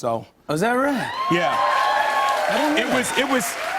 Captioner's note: cheers and applause